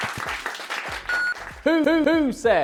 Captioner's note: clapping; beeps